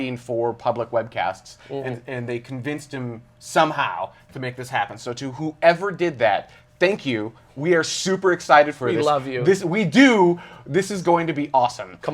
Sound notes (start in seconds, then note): none